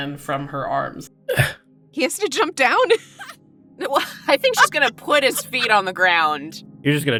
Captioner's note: laughs